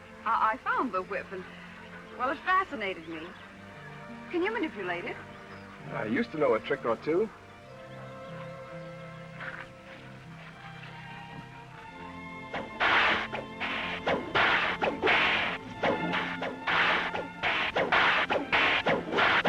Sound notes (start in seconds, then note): 10.5 classical music; 12.5 cracking whip